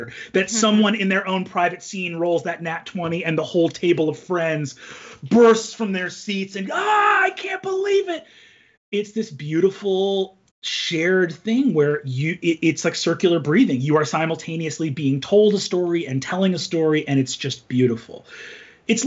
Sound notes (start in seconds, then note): 7.1 cheers